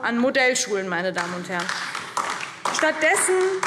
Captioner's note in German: Beifall DIE LINKE